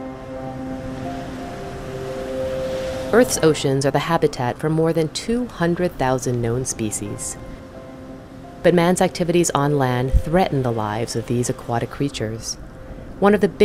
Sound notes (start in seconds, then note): 3.1 ocean waves; 3.1 slow music